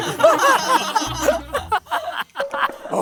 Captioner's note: laughing